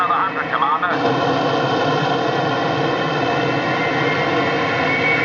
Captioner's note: motor choramingando